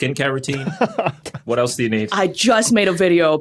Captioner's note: chuckles